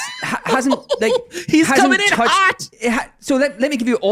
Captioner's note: chuckles